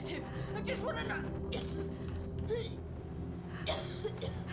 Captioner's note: coughing